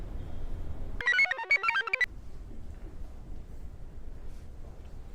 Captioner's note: computer chirps